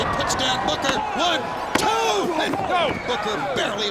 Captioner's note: hand pounding